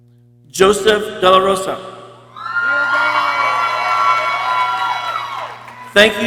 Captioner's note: people cheering